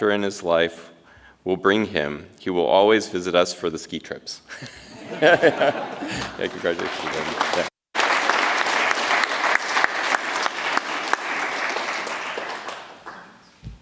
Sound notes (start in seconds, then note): 4.5 chuckles; 4.6 audience chuckles; 7.9 audience applauds